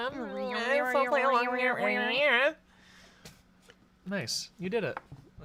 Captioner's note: both making beeping sounds